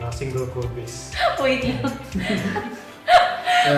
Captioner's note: laugh